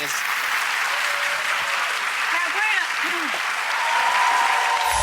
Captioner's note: audience cheers